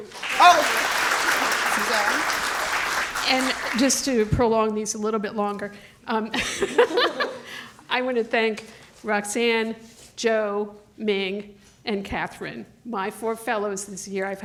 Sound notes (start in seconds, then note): 0.0 audience clapping; 7.3 laughs